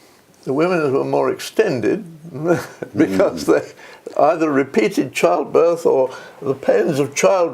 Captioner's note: laugh